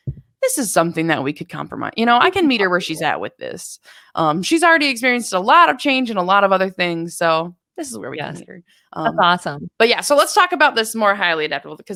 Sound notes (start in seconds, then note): 7.8 talks quickly